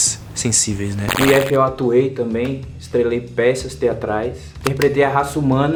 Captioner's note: crackling